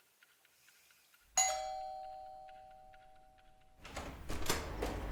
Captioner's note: doorbell rings